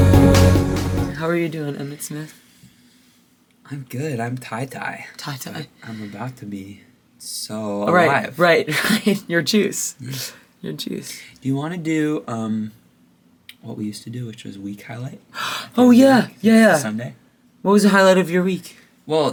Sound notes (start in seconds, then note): 0.0 upbeat bright music; 15.8 gasps